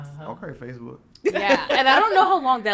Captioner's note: podcaster laughing